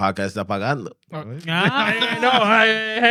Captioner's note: speaking In Foreign Language; laughing; speaking In Foreign Language